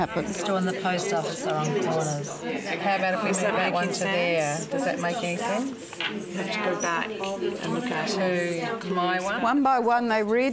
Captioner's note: audience chatter